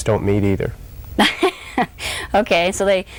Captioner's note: laughs